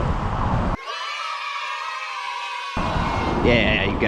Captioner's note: kids cheering